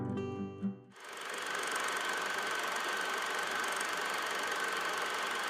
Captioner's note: projector whirling